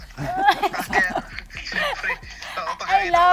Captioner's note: chuckling